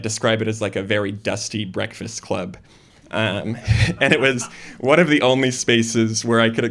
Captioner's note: laughter